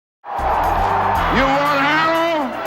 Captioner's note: crowd cheering